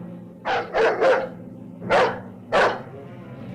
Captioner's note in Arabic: نباح الكلب